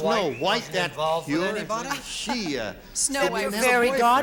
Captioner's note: chatter